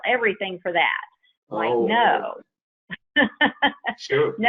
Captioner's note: laughs